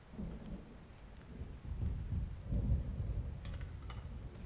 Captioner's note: thunder rolling